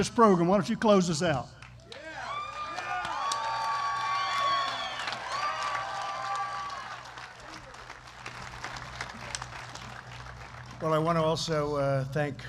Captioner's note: applause